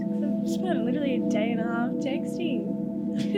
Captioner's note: laughs